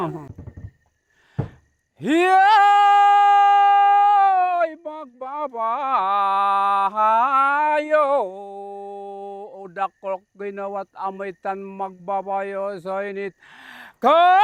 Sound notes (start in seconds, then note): 2.0 chants